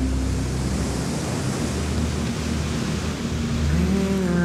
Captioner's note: waves crashing